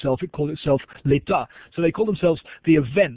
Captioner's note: foreign language